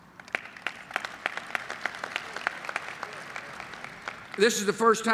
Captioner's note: applause